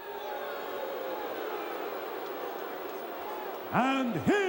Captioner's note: crowd booing